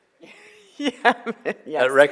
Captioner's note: laughs